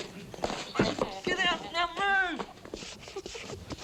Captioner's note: Betty laughing